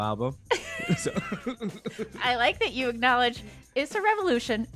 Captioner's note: laughter